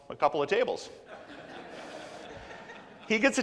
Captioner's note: laughs